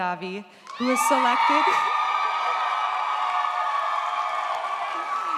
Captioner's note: audience cheers